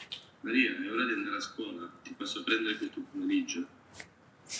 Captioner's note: non-english speech